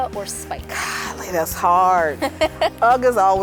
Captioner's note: laughs